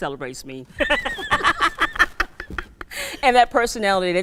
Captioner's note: laughing